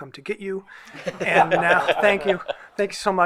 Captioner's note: group laughs